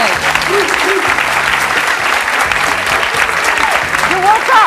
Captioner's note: audience clapping